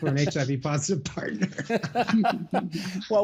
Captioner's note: laughter